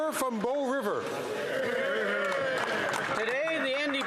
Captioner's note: some Applause